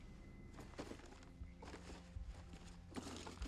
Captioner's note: rustling